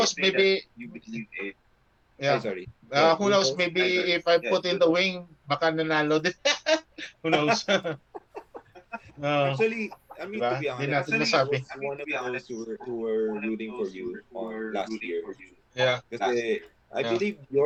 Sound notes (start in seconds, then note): 10.2 laughs